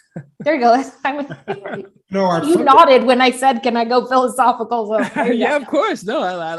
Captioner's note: laugh